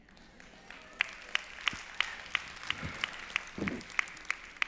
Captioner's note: applause